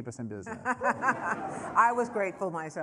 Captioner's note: laughter